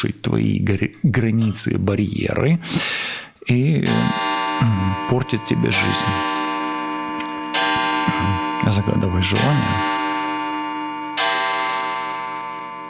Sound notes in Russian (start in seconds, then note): 2.6 вздыхает; 2.6 тяжело вздыхает